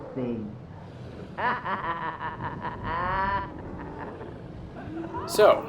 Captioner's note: cruel laughter